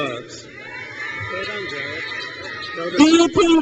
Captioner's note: crowd cheers